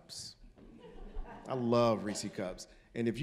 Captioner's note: audience laughing